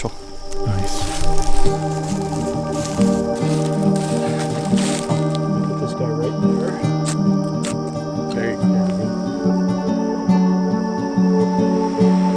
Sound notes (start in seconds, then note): 3.1 gentle music; 6.3 flint sparking